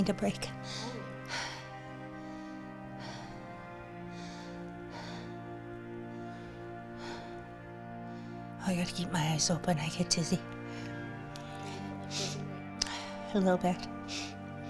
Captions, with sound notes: so I just need a break. (gasping) I got to keep my eyes open. I get dizzy a little bit.